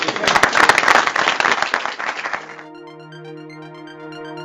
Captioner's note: applause